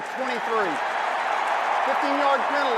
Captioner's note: cheering